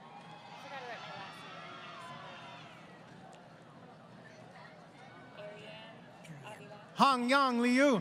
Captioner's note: applause